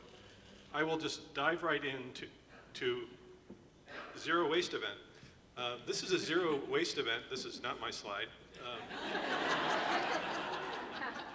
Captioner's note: laughter